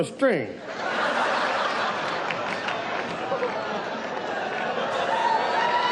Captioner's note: audience laughs and jeers